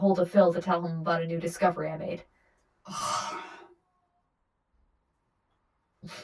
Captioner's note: sighs